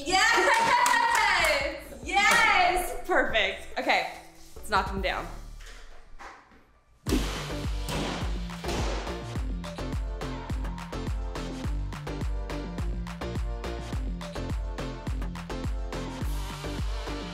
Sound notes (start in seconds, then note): 7.1 upbeat music; 7.1 sledgehammer bangs